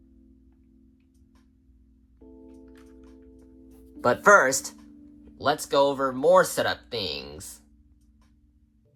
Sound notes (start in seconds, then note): 0.0 setup music; 3.7 voiceover offscreen